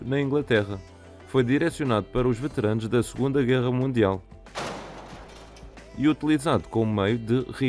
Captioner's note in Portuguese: bomba a explodir